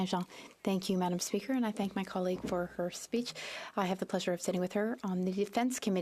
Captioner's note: speaking French